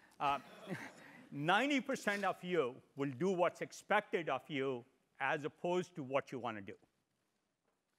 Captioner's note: laugh